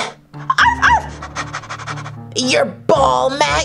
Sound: barking

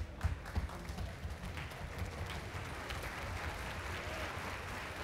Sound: applause

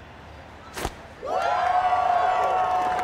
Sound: cheering

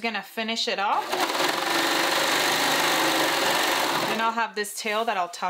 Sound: machine whirring

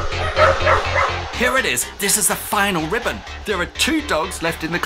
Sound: dogs barking

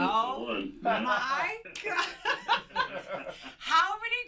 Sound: laughing

